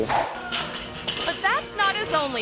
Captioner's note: pogo stick clatters